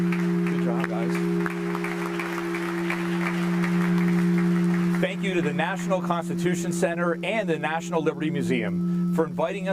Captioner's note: applause